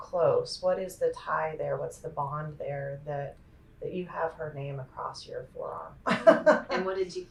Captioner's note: laughs